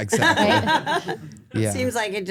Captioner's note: group laughs